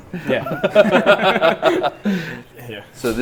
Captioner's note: all laughing